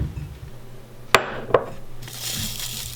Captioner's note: glass clink; hot cocoa mix poured into cup